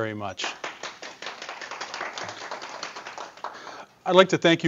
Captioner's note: audience applause